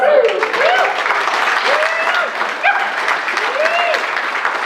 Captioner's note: clapping and cheering